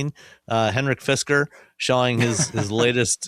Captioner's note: chuckles